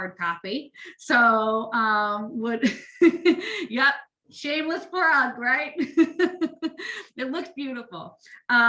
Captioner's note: laughs